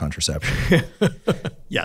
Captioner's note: laughs